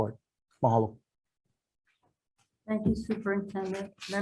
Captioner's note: speaks in foreign language